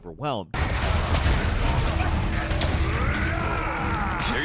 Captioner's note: gunshots firing